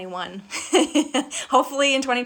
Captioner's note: laughing